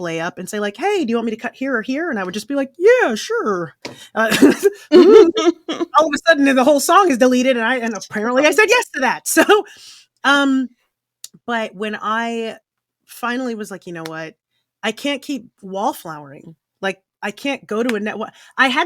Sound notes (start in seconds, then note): 4.8 laughing